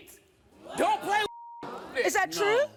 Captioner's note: beep